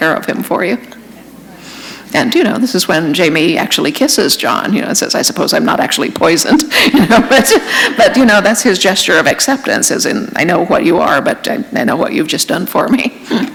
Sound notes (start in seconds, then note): 6.8 chuckle